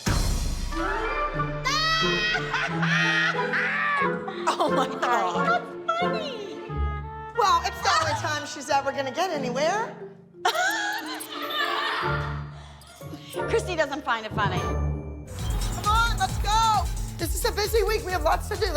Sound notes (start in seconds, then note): 1.2 cackles; 10.4 laughter